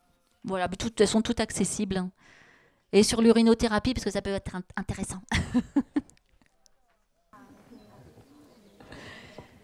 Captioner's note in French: elle rit